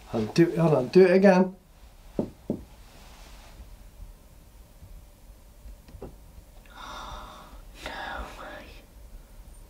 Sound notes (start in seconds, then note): 2.1 knocks on ceiling; 6.7 woman gasps